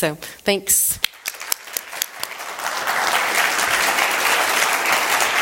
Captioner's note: applause